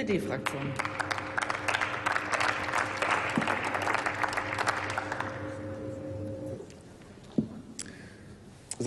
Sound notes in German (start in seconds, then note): 0.4 Applaus